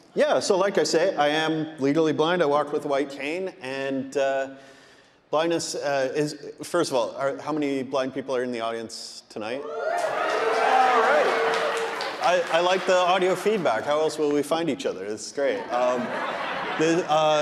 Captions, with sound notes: Yeah, so like I said, I am legally blind, I walk with a white cane, and blindness is... First of all, how many blind people are in the audience tonight? (audience cheering) (audience applauding) I like the audio feedback. How else will we find each other? It's great. (audience laughing)